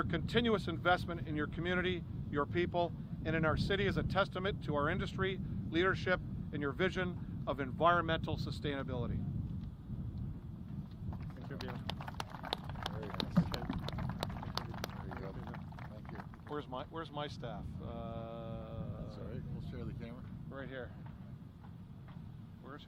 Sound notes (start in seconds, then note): 11.1 applause